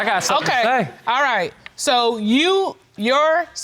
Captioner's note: none